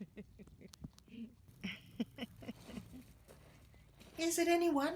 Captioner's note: giggles